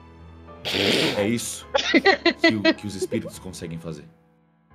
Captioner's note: laughing